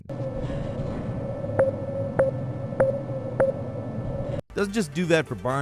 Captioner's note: electronic beeping